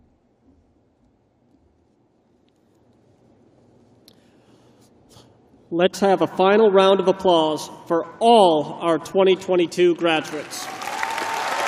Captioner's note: cheers and applause